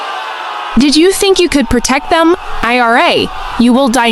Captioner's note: mocking, triumphant